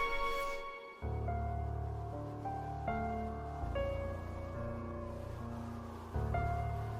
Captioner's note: wind whistling